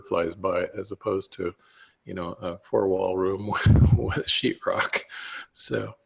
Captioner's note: laughs